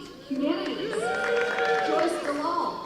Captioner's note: cheering